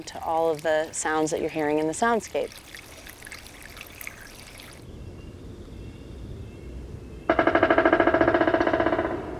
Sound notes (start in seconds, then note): 2.8 splattering trickle of water